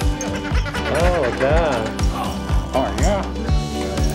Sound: lower pitched squeaky toy

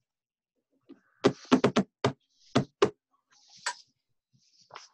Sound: knocking table

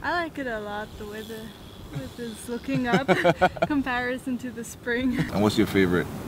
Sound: laughter

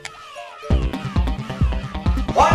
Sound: battle crying cries

